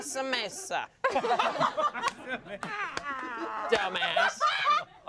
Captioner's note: everyone laughs